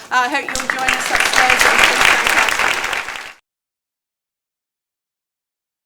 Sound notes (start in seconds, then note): 2.1 applause